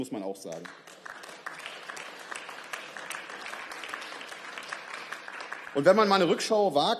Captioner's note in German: Beifall